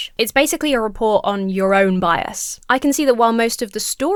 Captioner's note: none